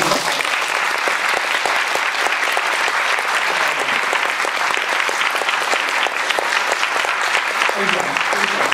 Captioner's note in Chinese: 掌聲